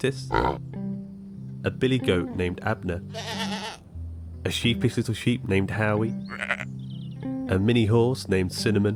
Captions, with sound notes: (pig grunts) a billy goat named Abner, (goat bleating) a sheepish little sheep named Howie, (sheep bleats) a mini horse named Cinnamon,